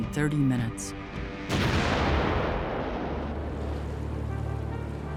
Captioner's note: explosion pounds